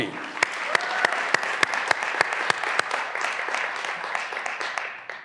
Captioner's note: graduands cheering and applauding